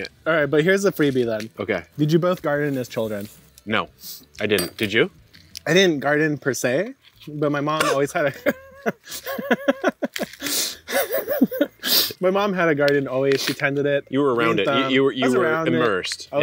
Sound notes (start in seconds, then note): 7.7 coughs; 7.8 laughs